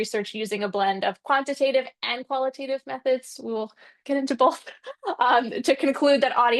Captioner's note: laughs